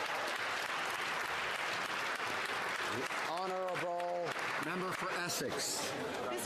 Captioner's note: some Applause